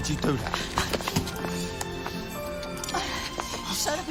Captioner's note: sirens blaring